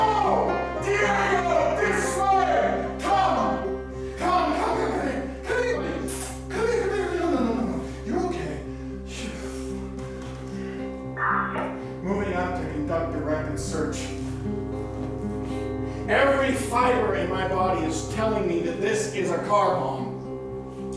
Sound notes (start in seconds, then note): 6.1 kissing